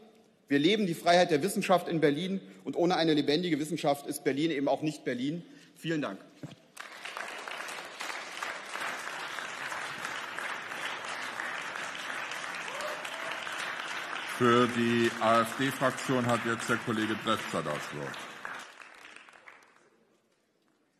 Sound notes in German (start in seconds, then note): 6.5 Beifall